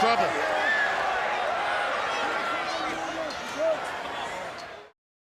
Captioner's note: crowd continued screaming